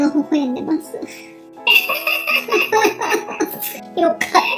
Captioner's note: laughs